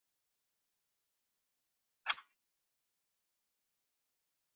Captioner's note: keyboard click